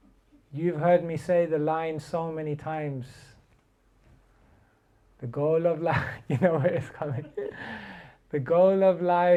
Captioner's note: chuckles